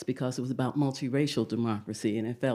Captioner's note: none